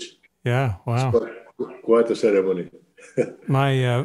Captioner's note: chuckles